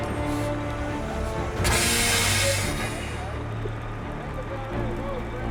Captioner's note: metal clanking; staff chattering indistinctly